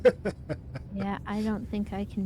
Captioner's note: laughing